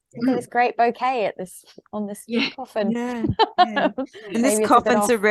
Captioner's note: laughter